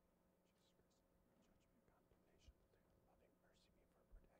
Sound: whispering

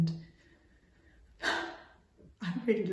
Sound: exhales

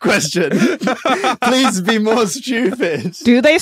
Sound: laughs heartily

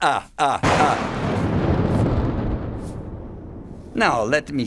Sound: laughs; a thunderclap

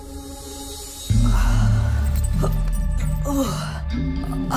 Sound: groaning

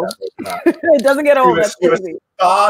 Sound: chuckles

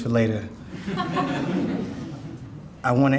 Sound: audience laughing

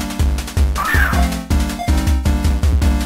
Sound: squeakiing

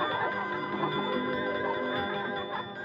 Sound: bell Tolling

